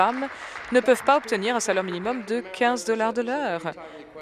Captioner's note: applause